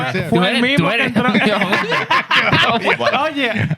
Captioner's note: laughter